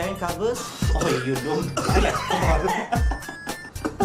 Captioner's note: loud hacking coughs; laughter